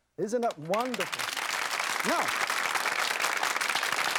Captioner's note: clapping